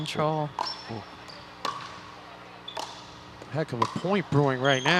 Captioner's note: ball bouncing